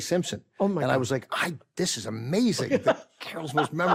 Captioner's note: laughs